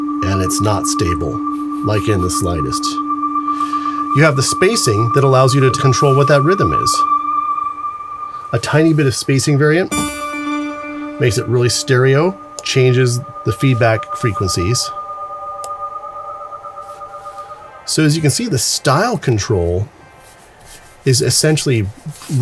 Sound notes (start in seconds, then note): 9.9 echoing; 14.5 mysterious echo